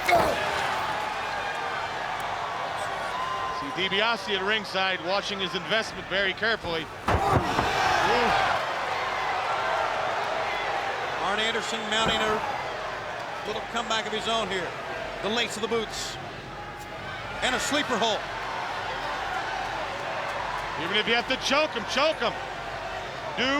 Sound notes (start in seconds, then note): 0.0 body thudding; 0.0 wrestlers grunting; 6.8 blow thudding